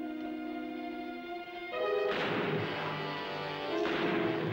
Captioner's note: gunfire